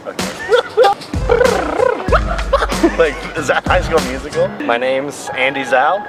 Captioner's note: laughing